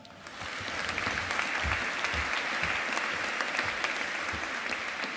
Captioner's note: audience applauding